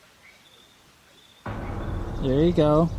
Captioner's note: loud thundering noise